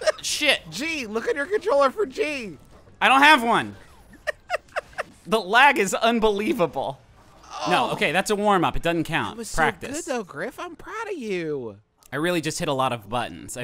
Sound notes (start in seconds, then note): 0.0 laughing; 3.8 chortling; 7.4 groaning